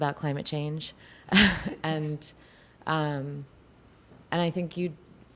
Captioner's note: chuckles